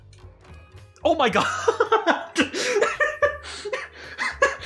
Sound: laughs

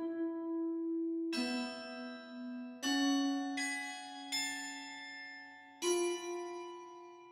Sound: morbid music playing; bells chiming

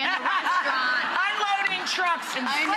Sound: audience laughing

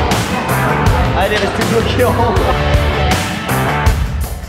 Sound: laughs

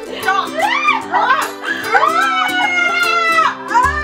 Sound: screams

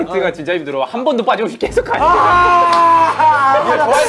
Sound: screaming

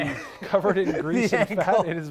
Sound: laughs

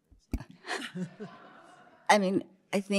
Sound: laughter

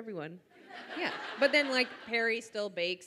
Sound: audience laughs

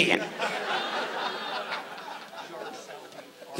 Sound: audience laughs

